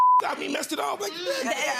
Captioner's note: beep